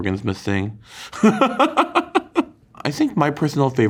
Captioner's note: Kim laughs